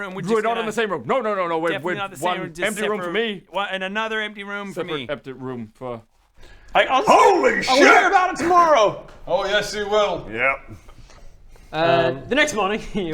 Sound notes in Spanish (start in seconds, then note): none